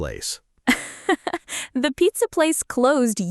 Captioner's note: laughs